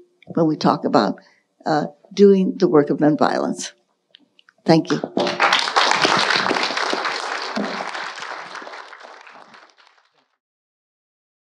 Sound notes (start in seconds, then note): 4.9 audience applauding